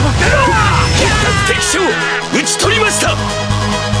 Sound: fatal scream

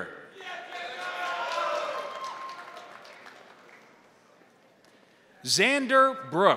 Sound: crowd cheering; crowd applauding

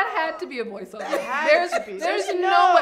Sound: laughs

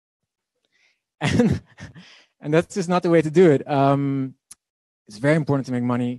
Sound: laughing

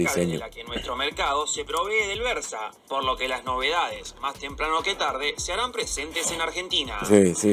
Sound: man speaking in Spanish

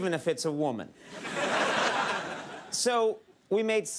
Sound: audience laughs

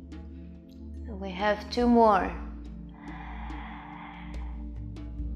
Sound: inhales

